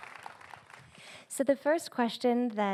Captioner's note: applause